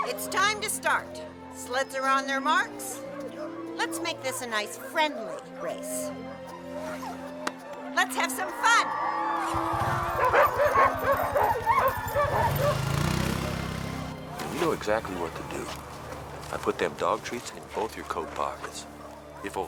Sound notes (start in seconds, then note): 8.4 crowd cheering; 9.8 dogs barking